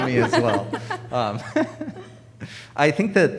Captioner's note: audience laughing